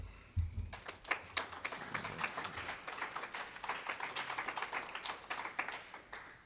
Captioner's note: applause